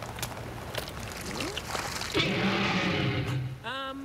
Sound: roar!

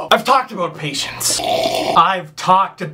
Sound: sip

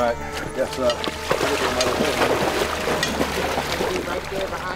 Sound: splashing

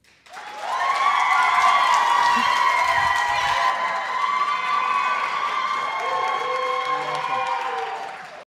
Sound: audience applauds and hoots

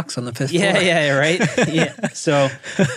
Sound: laughing

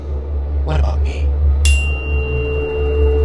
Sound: tuning fork rings

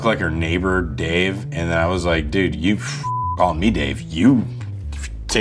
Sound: beeps

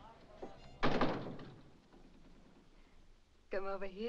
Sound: door slams

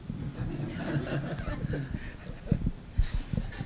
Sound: laughter

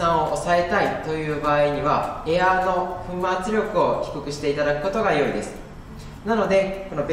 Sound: spray air

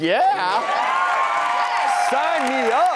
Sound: audience cheers

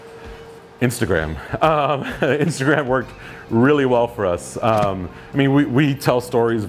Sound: chuckles

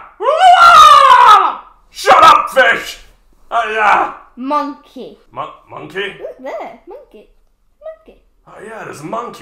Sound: screams in fish

